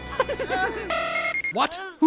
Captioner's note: evil chuckling; Scouter beeps